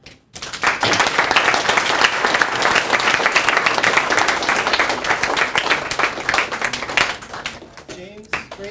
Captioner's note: applause